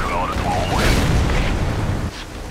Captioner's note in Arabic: خششش